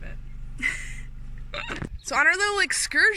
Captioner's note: both laughing